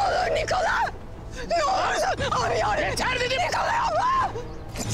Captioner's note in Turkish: Bağırışlar